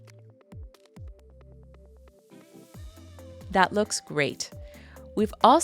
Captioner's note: pause